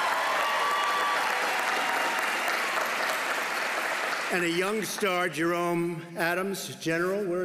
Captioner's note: applause